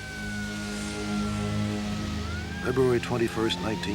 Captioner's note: sirens blaring